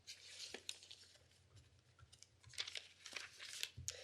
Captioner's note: paper flipping